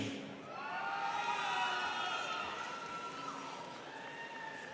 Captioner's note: students cheering